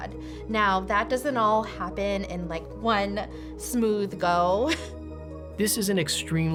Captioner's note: laughs